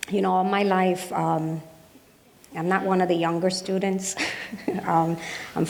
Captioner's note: laughs